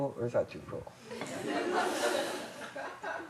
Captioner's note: laughter